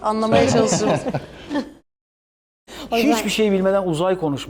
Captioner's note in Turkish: kahkaha